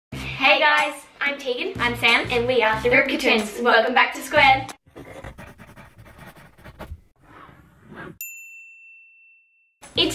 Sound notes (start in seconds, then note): 4.9 pen scribbling; 8.2 bell dings